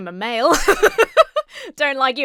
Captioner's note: laughs